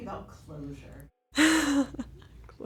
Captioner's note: laughs